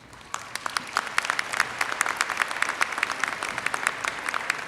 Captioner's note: audience applauds